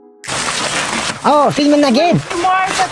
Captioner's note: laugh